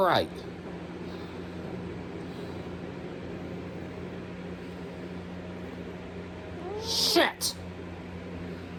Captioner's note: growls; Caprice continues to growl